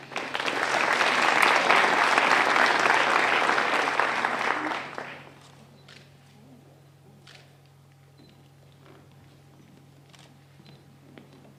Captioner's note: applause